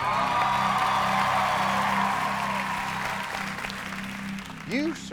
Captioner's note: cheers and applause